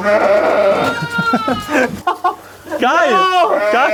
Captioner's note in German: lachen